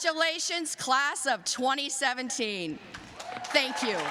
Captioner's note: applause